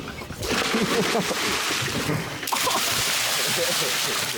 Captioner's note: water splashing